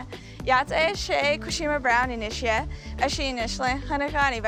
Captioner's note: speaking in Navajo